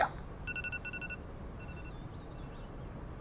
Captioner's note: alarm